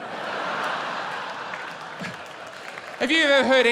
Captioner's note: laughter